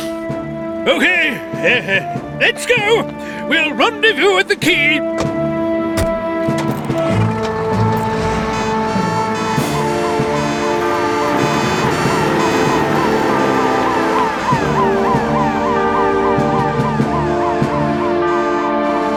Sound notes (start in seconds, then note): 0.3 sniff; 9.3 sirens Wailing